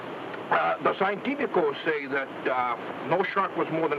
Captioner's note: speaks in foreign language